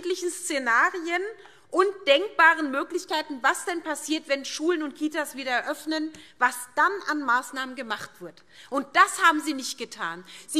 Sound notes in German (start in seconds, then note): none